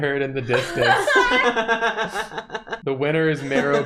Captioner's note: laughter